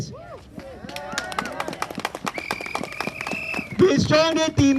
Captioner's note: cheers & applause